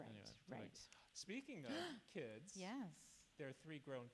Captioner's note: gasps